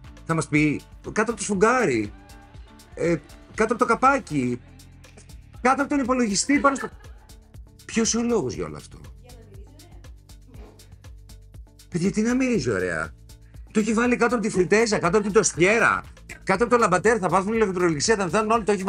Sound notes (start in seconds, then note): 6.2 laughing